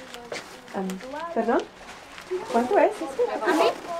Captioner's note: in Spanish